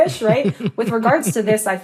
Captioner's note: laughter